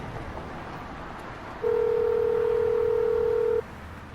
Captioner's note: phone ringing